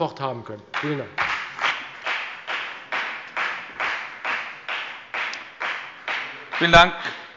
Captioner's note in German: Beifall bei der FDP